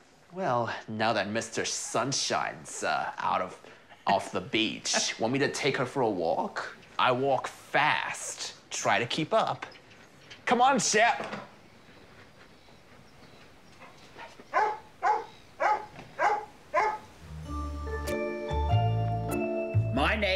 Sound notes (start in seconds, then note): 3.8 chuckles; 14.4 barks; 17.2 light, intriguing music